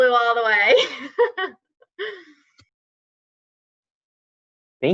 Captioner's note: laughs